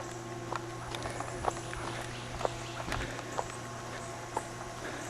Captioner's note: footsteps crunching; person panting